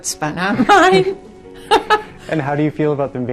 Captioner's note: laughing